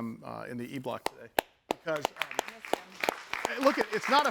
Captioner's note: all clapping